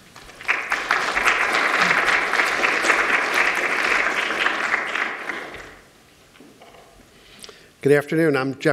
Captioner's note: applause